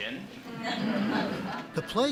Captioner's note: laughter